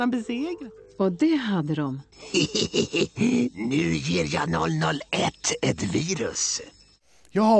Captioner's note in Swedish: Skrattar